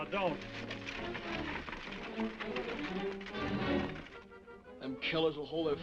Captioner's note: horse hooves clopping